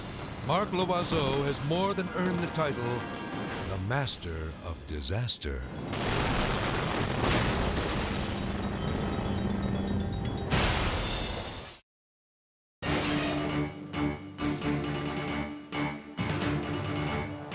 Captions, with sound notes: Mark Loizeaux has more than earned the title, the Master of Disaster. (explosion booming) (building crashing) (dramatic music)